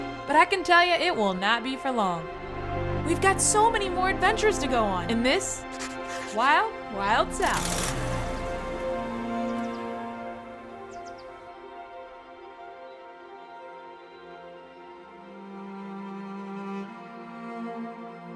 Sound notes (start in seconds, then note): 7.9 car revving; 11.5 gentle music continues